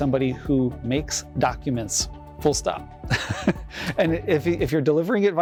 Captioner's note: chuckles